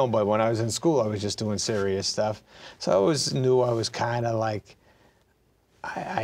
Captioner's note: none